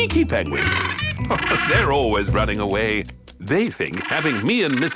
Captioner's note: laughing